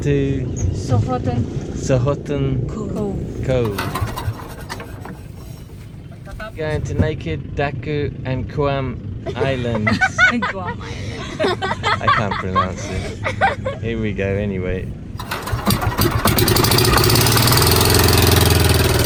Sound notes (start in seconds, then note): 3.0 engine fails to start; 9.2 laughter; 15.1 engine starts